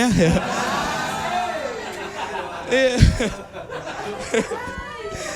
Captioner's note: applause